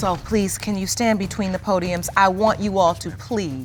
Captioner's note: none